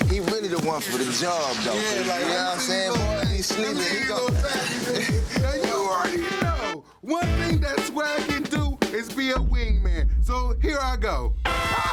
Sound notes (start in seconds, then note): 3.0 people speaking indistinct; 6.7 energetic hip-hop music